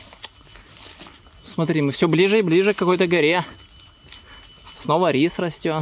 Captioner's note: rejoices